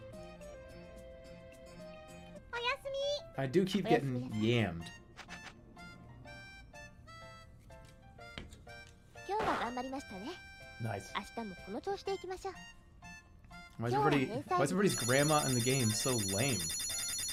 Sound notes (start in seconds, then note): none